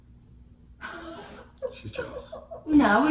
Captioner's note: laughing